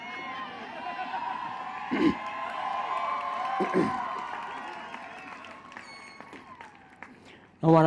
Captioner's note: applause